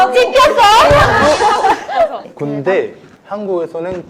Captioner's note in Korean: 하하하하하하하